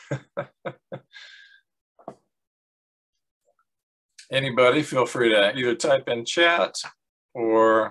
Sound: laughs

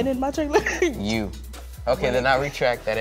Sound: laughs

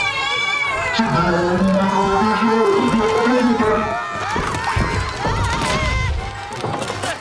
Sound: groaning and screaming

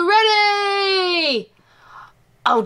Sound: imitates Jessie's voice

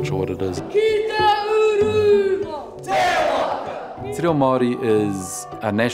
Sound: chanting in Te Reo Maori

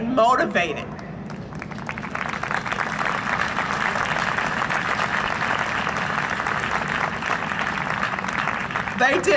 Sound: applause

